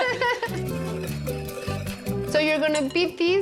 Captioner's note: Pati and Vivian laugh